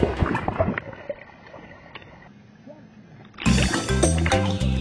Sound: underwater bubbling; tropical upbeat music

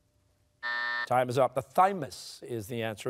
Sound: buzzer sounding

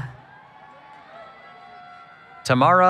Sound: cheering

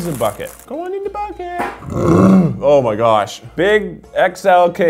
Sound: burps

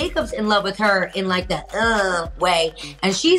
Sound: mimics sexy sound

